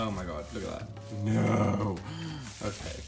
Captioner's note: groans